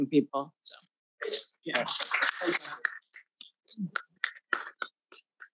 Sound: audience applauding

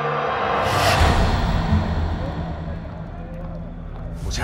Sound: angry crowd sounds

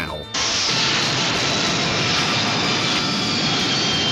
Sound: loud crash

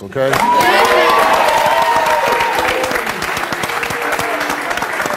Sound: audience applauds

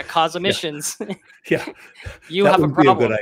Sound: both chuckling

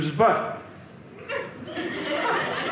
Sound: audience laughing

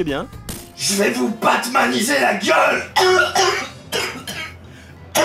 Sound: cough

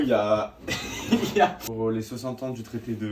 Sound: laughs

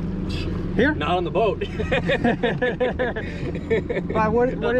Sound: laughing

